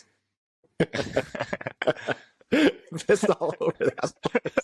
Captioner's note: laughter